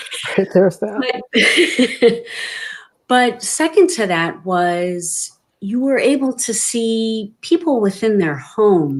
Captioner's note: laughing